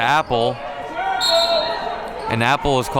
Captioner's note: whistle blows